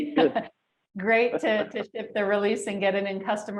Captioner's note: laughs